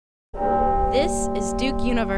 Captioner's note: bell tolling